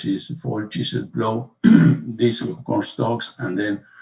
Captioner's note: coughs